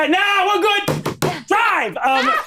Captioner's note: bangs table